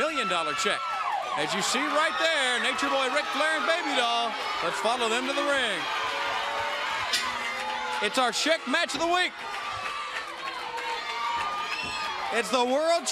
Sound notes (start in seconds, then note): 7.1 bell dings